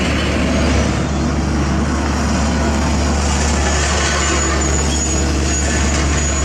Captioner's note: engine Rumble